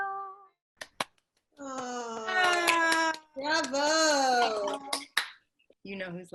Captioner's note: loud cheers and claps